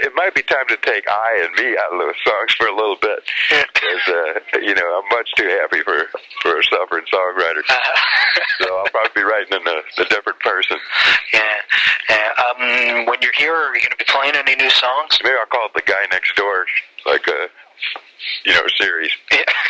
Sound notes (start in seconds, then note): 7.4 laughs